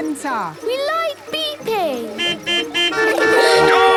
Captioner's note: horns beeping